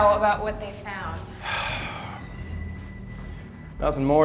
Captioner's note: sighs